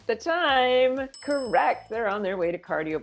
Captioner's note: bells ring